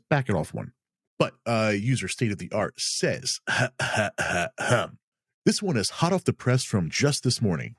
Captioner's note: ahem